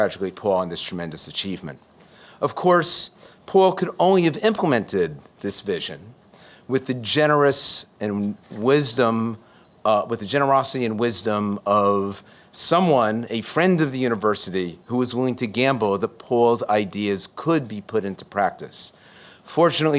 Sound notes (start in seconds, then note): none